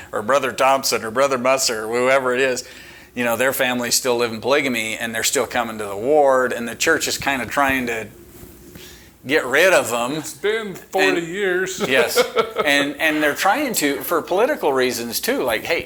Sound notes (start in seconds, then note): 11.7 chuckling